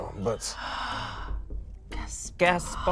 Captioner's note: gasps